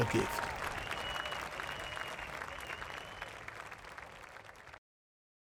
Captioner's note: audience applauding